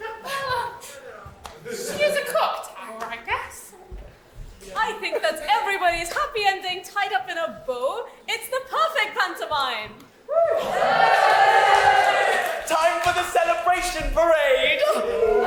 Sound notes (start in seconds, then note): 10.3 audience cheering